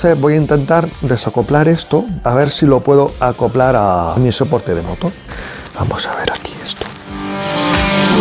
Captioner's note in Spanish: susurrando